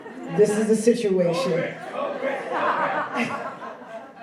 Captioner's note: laughing